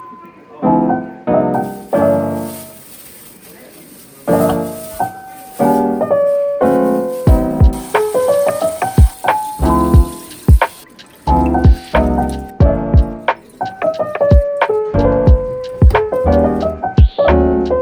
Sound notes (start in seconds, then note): 6.6 splash; 10.5 rinsing